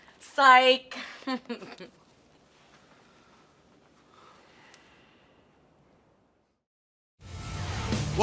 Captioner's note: laughter